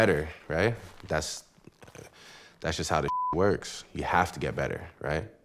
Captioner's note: beep